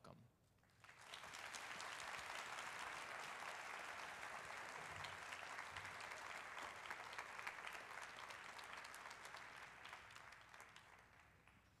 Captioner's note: applause